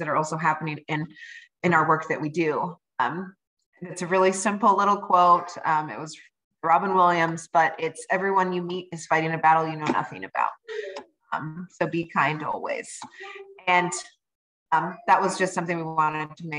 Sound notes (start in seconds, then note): 10.7 child babbling sound